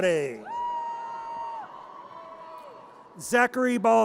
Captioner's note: audience cheers